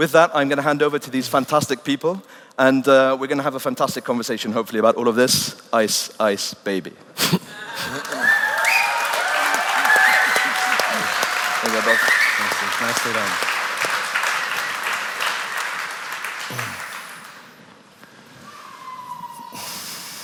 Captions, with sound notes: So, with that, I'm going to hand over to these fantastic people, and we're going to have a fantastic conversation, hopefully. Ice, ice, baby. (Cheers and applause)